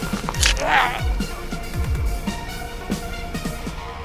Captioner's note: man grunting